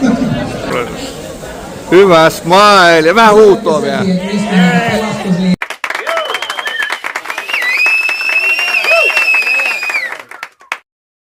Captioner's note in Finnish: Aplodeja